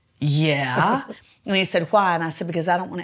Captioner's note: laughs